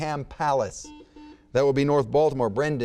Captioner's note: buzzer beeps